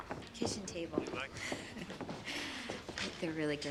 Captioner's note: chuckles